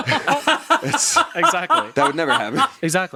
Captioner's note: everyone laughs